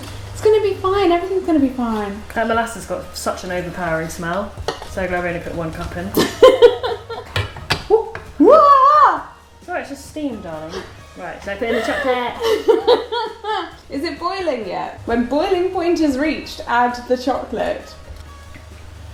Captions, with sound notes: - It's gonna be fine, everything's gonna be fine. - Okay, molasses has got such an overpowering smell. So I can only really put one cup in. - (laughs) (both yelp in surprise) - It's all right, it's just steam darling. - (laughs) Is it boiling yet? "When boiling point is reached, add the chocolate."